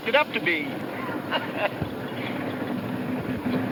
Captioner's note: chuckles